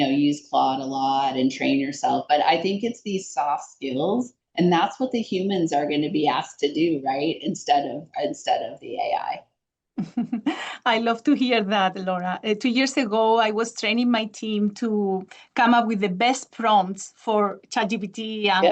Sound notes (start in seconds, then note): 10.0 chuckles